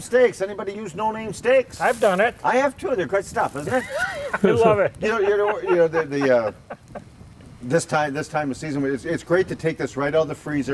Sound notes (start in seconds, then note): 3.6 laughs